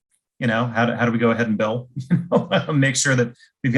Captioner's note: laughs